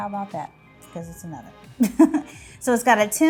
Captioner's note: laughs